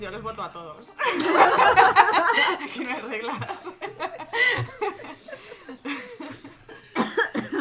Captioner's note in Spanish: risas